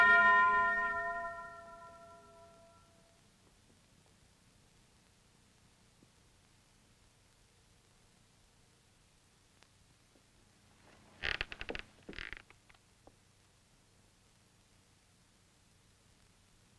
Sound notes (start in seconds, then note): 10.8 floors creaking